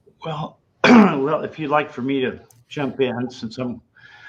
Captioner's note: clears throat